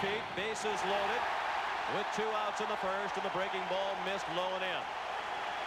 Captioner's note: cheering and Applause; applause